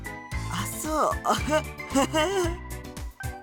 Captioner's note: awkward laugh